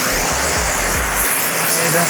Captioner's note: buzzing